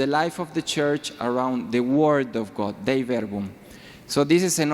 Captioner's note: speaks foreign language